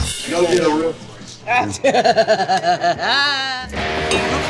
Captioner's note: laughing; dramatic music